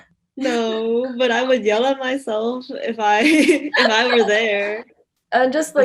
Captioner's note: nervous laughter